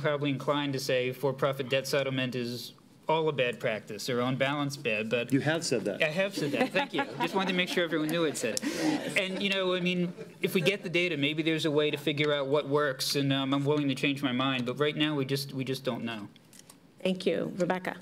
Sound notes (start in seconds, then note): 6.3 laughter